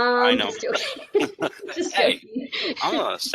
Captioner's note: laughter